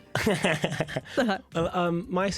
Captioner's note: laughter